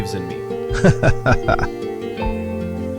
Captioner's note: laughing